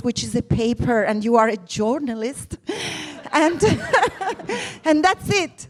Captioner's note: laughs